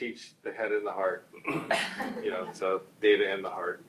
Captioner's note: group chuckles